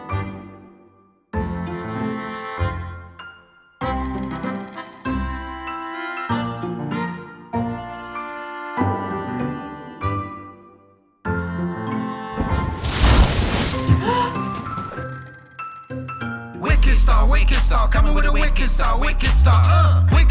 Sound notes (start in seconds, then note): 0.1 quizzical music; 12.6 thunder rumbles; 13.9 grandma gasps